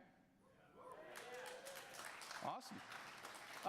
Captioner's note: audience applause